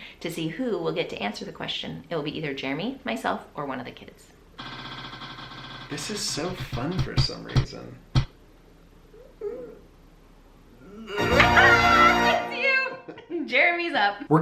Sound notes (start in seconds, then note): 4.7 wheel rattling